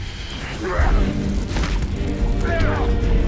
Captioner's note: adventurous music; both grunting